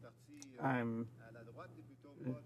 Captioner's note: some Applause